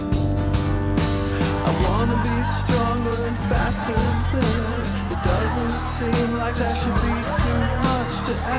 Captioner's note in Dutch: lacht